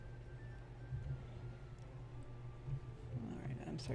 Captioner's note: clicks, typing